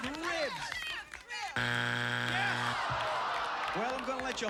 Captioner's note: buzzer